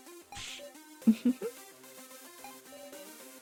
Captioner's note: giggles